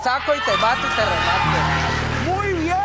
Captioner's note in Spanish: Público ovaciona